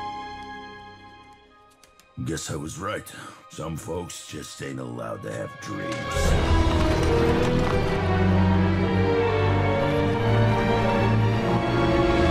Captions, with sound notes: I guess I was right. Some folks just ain't allowed to have dreams. (horses whinny)